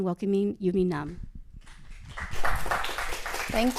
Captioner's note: applause